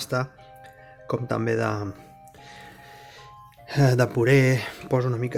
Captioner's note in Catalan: suspira